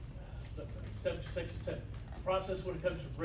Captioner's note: stammers